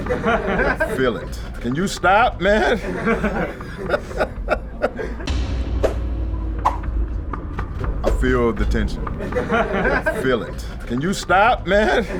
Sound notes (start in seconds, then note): 0.0 audience laughing; 2.9 Spice laughing; 2.9 audience laughing; 5.3 fast-paced air swooshing; 5.3 intense dramatic music; 8.1 audience laughing